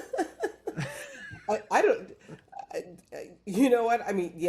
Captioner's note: laughing